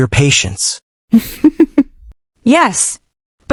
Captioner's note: laughs